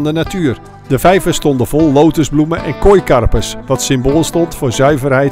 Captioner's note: voiceover